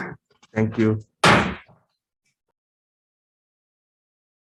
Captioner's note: gavel slamming